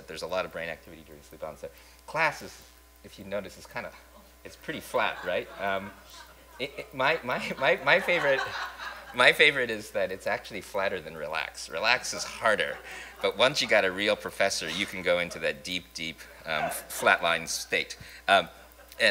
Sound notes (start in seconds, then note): 4.8 laughter